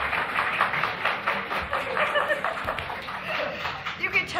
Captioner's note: applause